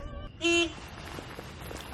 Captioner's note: car horn honking